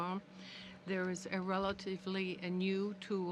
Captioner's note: speaking french